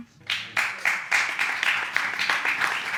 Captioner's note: audience applauds